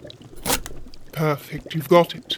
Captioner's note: slicing